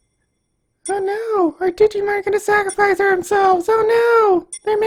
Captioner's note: in an annoying mocking voice